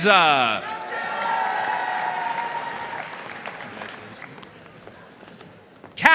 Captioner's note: audience cheering and applauding